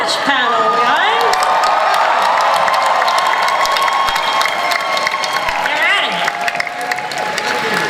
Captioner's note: audience cheers